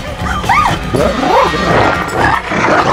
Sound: shrieks

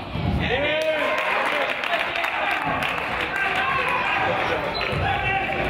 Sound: crowd applauds and cheers

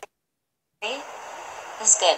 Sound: background ocean sounds

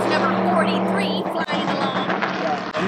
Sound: car passing

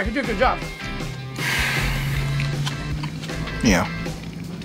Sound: sighing

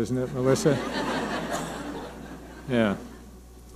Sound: audience laughing

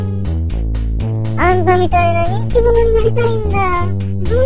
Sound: hovering

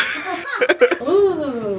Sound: everyone laughs

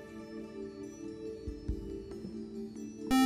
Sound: buzzer

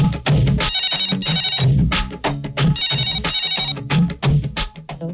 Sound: phone ringing

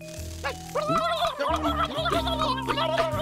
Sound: gobbles angrily

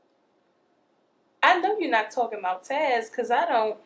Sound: none

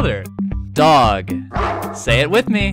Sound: bark

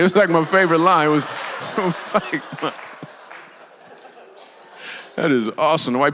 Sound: congregation laughs; laughs

